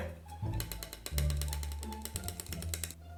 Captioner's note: tapping